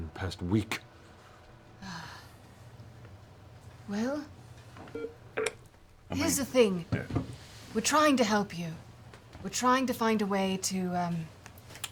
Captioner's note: clicking